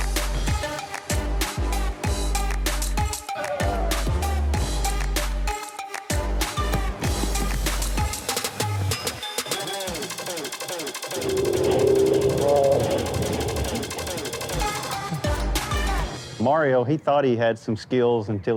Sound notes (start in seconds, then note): 3.3 firefighters shouts; 7.2 soft scuffling; 11.1 slow-mo screaming